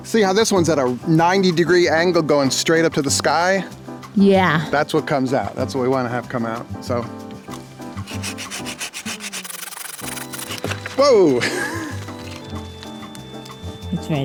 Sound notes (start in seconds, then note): 7.9 pruner scraping; 12.4 cheerful music